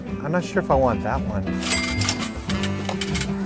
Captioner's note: cash register sound effect; jaunty music